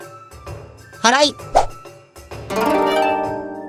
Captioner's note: sweeping